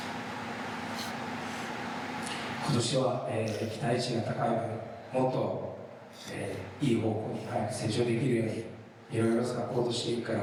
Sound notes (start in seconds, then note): 4.5 speaking foreign language